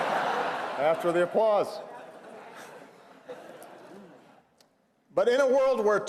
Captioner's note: laughter